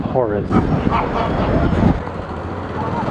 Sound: evil laugh

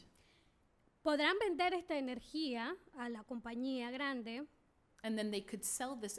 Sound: speaking spanish

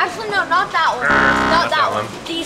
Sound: buzzing

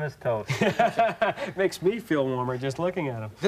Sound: laughing

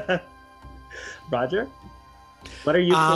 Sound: laughs

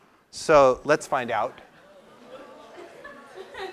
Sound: laugh

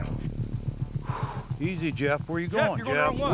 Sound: exhaling

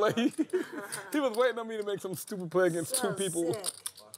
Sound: laugh

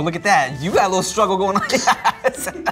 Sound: laughs

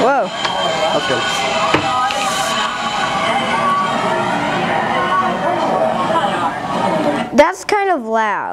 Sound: carnival sounds

